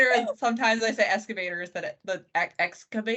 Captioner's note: laughing